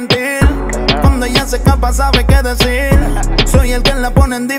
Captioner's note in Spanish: Jajaja